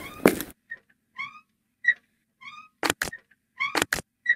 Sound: more irritating squeaking

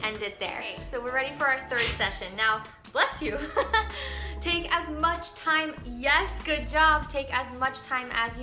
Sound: Tucker sneezes

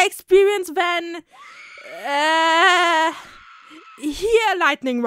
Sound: more screaming

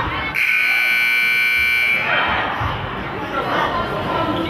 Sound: buzzer goes off

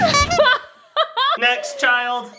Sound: laughing

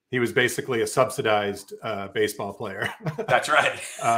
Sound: laughs

